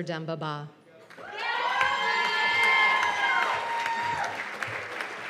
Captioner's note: cheers and applause